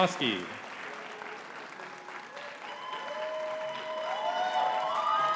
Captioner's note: audience cheering and clapping